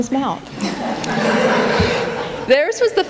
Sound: laughter

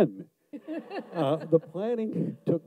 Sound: audience laughs

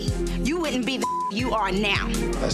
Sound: beep

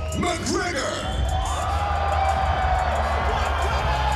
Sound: cheering

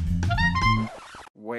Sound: record scratch

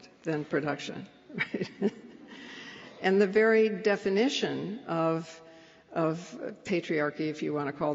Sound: laughs

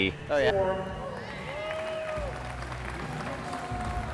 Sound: crowd cheering

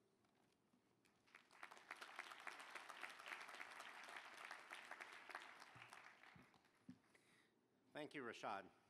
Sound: applause

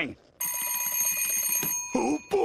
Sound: alarm rings

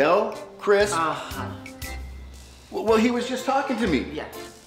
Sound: Chris groans

